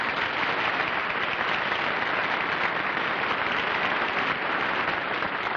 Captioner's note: applause